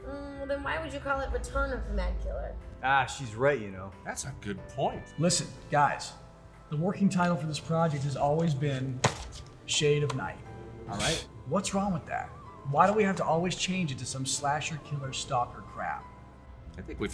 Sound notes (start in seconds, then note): 10.9 Jim scoffs